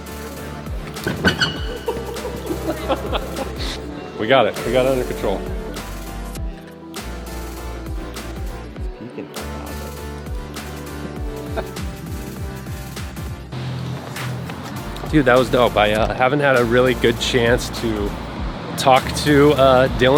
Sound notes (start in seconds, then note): 1.6 laughter; 5.9 electronic music